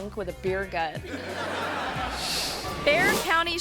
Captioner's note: audience laughing